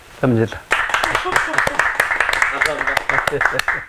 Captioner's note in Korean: 박수